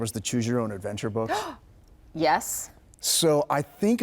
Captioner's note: gasping